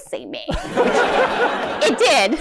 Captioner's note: laughter